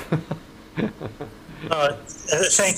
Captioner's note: laughing